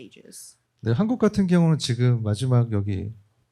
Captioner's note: speaking korean